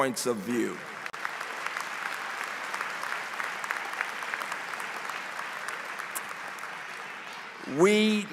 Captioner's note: applause